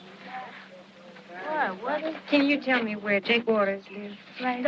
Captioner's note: kids Chattering